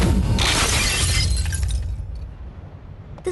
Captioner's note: shatter